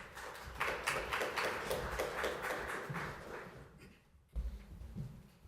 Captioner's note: applause